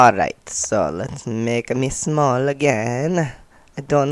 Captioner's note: weird accent